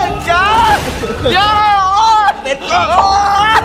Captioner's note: screams